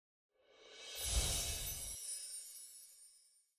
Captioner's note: chimes ringing